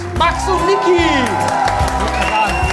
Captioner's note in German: Jubel, Applaus